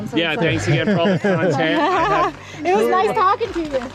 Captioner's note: all chattering